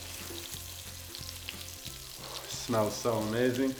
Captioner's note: meat sizzling